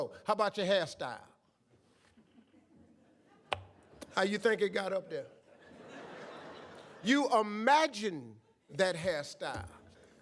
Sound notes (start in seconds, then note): 5.4 audience laughs